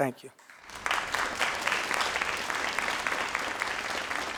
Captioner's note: crowd applauding